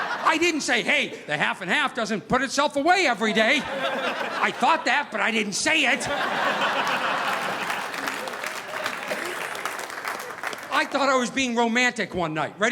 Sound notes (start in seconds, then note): 5.8 audience laughing; 6.0 audience applauding